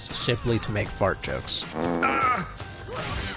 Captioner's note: fart